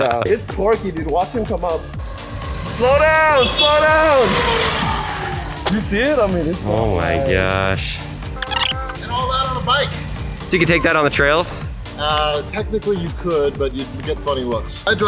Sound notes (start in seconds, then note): 4.4 bike whirring